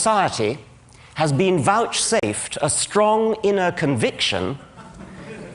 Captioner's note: laughter